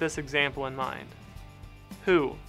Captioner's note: voice-over